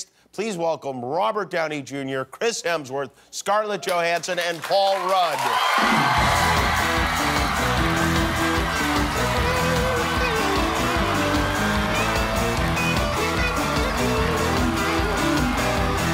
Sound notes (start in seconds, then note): 5.4 applause